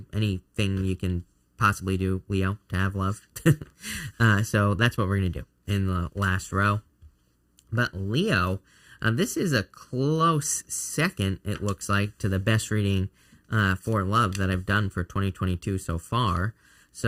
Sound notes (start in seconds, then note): 3.3 chuckling